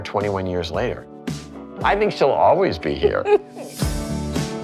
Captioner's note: chuckles; mellow music plays